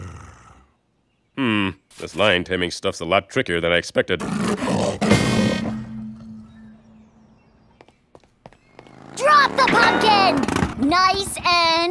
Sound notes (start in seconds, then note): 4.2 lion roars